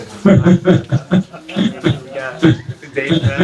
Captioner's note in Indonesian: tertawa